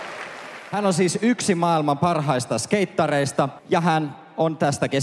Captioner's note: audience applauds; Finnish language